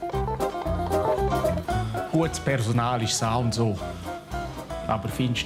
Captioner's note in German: Bündner Dialekt